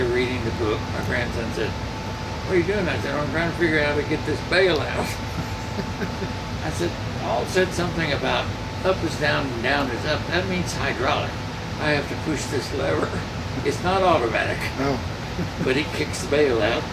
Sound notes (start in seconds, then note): 4.9 laughing